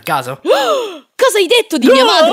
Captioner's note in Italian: sospiro